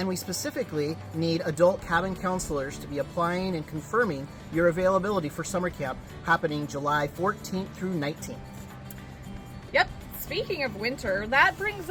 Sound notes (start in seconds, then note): none